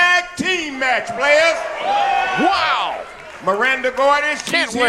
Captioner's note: crowd cheering